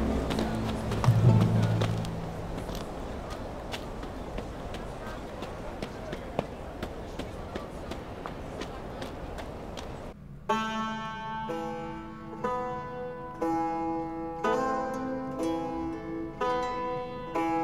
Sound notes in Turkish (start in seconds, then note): 0.0 Ayak sesi; 10.4 Müzik - Duygusal